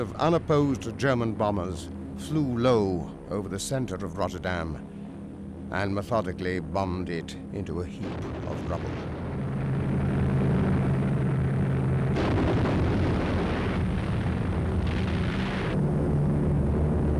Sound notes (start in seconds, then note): 10.7 planes buzzing; 12.1 bombs exploding